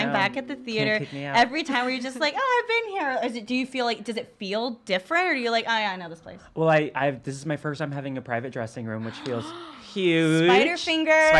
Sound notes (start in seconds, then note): 9.0 gasping